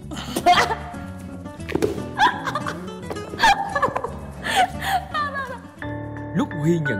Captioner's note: laugh